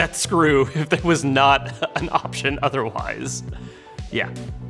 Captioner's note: laughing